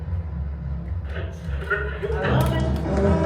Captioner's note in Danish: radio knitrende